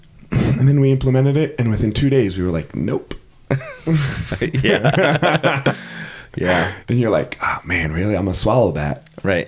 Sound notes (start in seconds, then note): 3.5 both laughing